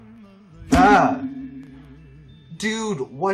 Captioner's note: Magnet rings as he he gets hit